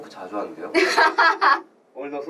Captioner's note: laughs